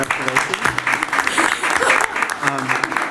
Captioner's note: applause